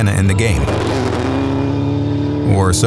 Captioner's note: engine revving